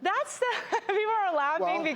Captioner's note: laughter